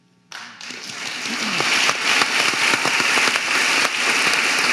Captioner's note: audience applauding